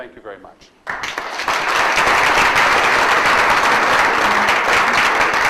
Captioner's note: audience applauds